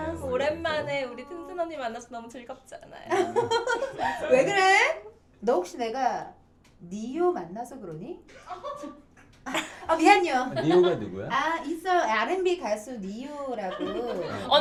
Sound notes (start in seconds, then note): 3.1 laughing